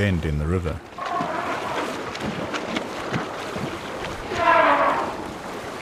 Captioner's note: trumpeting; animals calling; trumpets